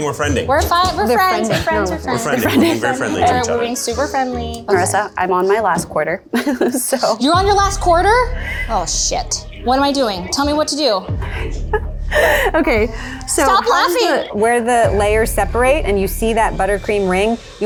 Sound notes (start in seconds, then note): 6.3 laughs; 11.2 laughing